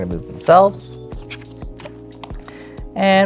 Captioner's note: tile scraping